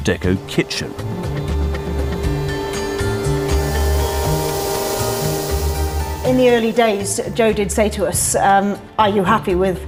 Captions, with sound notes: (cutters vibrate) - In the early days, Joe did say to us, "are you happy with how outrageous can I be?"